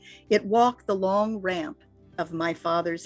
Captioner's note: none